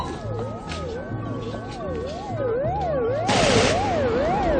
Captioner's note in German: </i> Schüsse